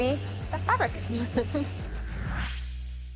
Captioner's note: chuckles